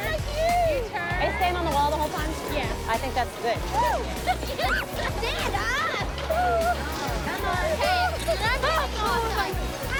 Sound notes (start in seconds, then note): 3.8 laughs